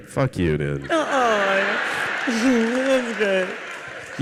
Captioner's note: audience laughs